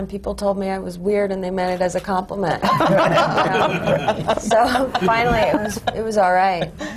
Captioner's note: laughter